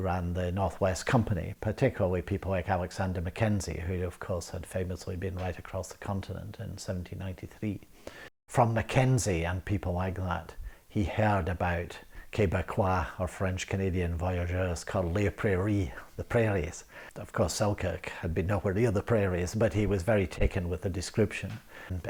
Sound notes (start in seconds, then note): 14.9 speaks French